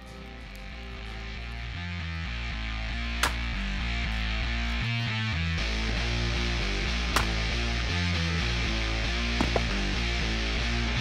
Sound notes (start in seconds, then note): 0.2 heavy metal music; 6.9 wood chopping